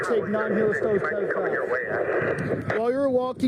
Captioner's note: radio chatter